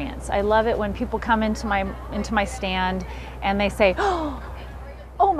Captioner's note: gasp